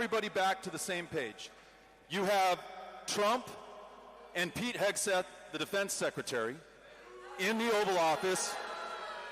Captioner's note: cheering